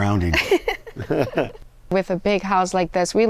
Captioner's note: both laughing